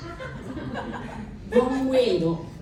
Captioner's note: laughter